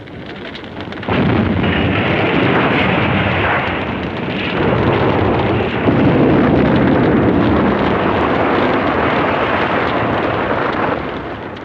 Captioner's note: bomb explosions, air–raid sirens